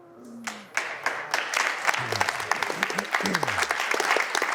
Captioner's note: audience applauds